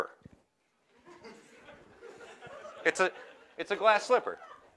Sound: laughter

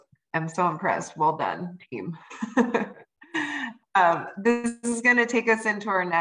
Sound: laughter

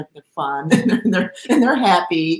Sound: laughs

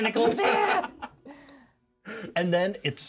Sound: speaker laughs

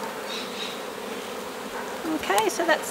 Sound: bees buzzing

